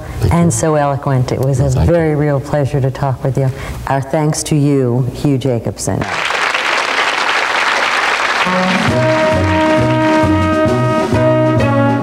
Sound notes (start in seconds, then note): 6.0 audience applauds; 8.4 cheerful music